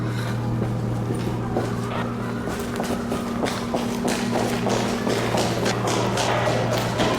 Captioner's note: siren wailing in distance